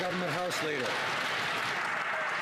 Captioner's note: some Applause